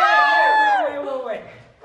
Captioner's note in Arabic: هتاف